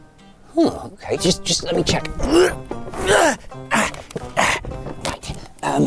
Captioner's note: groans